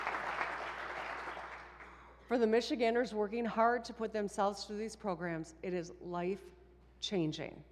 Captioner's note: applause